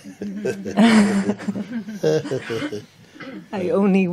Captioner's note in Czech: smích